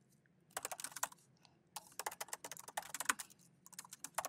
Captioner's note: keyboard clanking